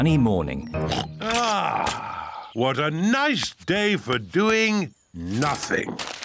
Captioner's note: oinks